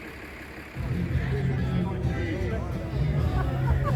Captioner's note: background chatter